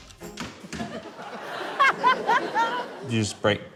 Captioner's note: laughter